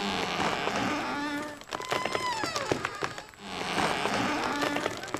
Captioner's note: creaking